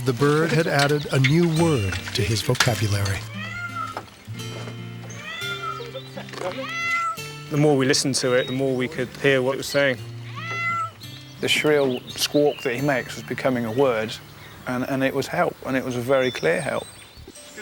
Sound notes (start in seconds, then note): 3.5 Sunny squawks help